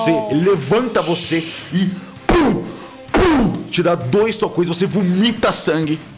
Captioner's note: pow pow